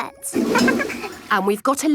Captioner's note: toilet flush